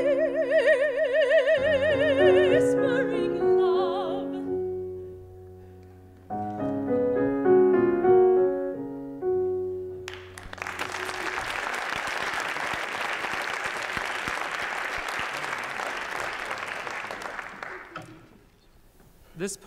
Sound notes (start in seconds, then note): 10.0 applause